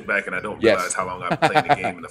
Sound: laugh

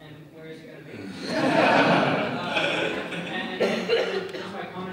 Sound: audience laughing

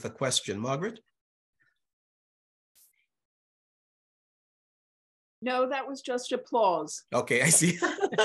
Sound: laughter

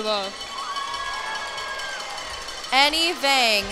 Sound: cheers and applause

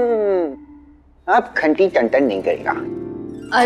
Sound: bell

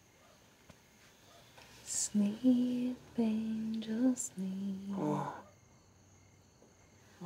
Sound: moans; humming

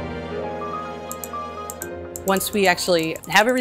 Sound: mouse clicking

